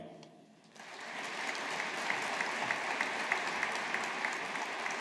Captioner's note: audience applauding